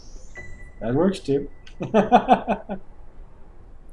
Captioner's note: laughs